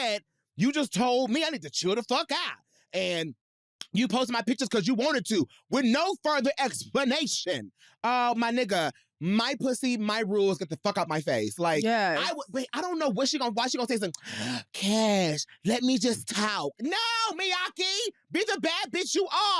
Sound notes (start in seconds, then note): 14.1 inhales